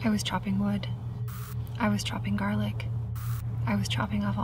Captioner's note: static crackles; static crackles